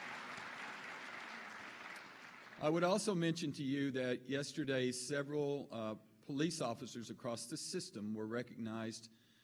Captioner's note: applause